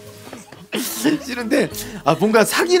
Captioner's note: regret / Tapping his feet